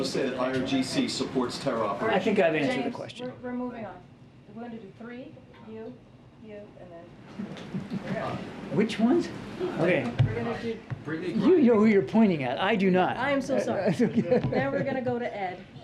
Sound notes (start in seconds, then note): 13.7 laughs